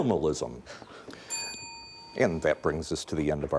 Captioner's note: bell dinging